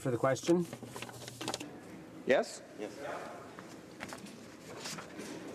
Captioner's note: speaking French